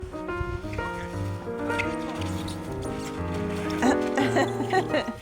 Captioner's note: ice skateboard screeching; woman laughing